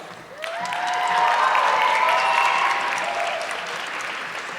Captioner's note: audience clapping